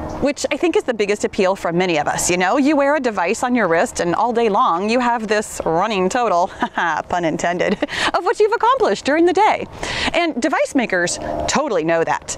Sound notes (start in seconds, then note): 6.4 laughs